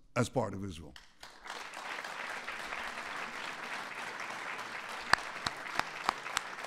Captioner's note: applause